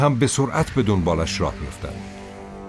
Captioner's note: squawking